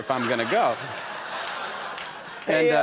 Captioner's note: audience laughs